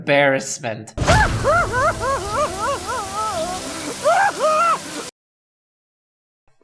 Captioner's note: sobbing